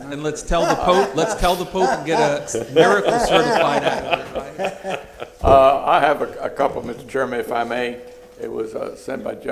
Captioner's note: laughter